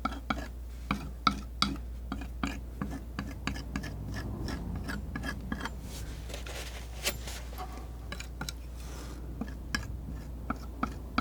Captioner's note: tapping